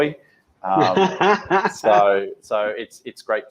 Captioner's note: laughs